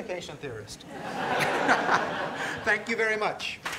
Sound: laughter; applause

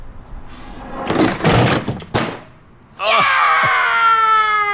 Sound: metal crashing

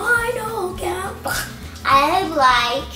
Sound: imitating choking

